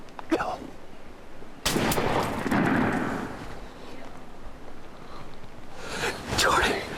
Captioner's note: rifle fires